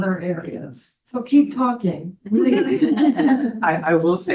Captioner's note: all laugh